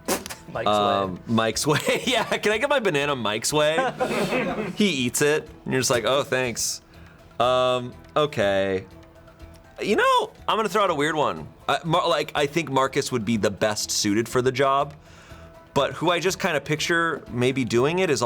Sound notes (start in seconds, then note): 1.8 snickers; 3.9 crew members laughing